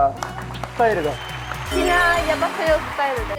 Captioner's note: applause